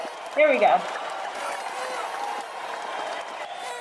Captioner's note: applause